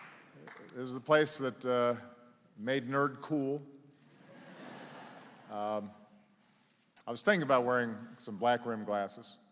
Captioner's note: laughter